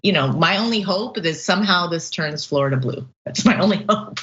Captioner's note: laugh